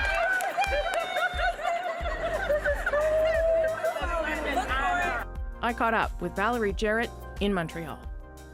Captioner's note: laughter